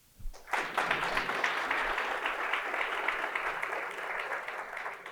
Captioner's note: applause